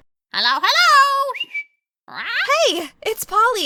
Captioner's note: whistles, squawks